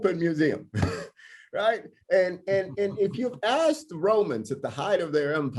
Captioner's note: laughter